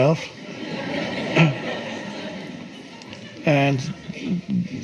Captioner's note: audience laughs